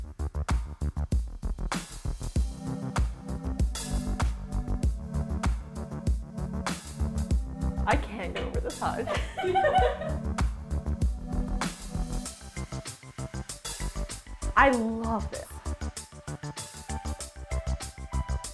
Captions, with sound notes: I can't go over this hutch. (all laughing) (upbeat music) I love this. (upbeat music)